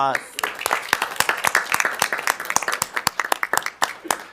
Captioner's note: audience applauding